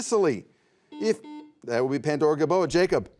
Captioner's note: buzzer buzzes